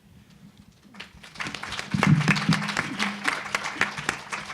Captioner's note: applause